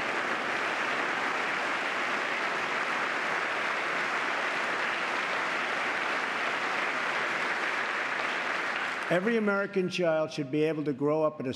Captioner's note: applause